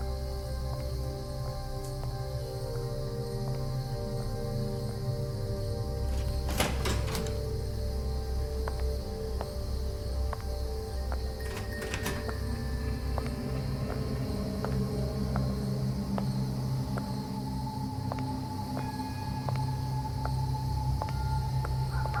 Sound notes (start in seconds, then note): 0.2 suspenseful music; 6.0 door opening; 11.4 door closing; 13.8 suspenseful music; 16.4 insects chirping; 19.6 suspenseful music